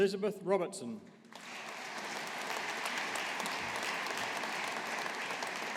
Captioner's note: audience applauding